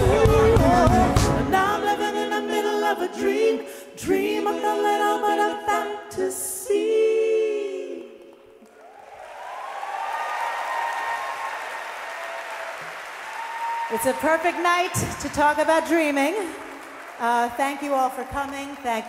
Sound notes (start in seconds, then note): 9.6 audience applauding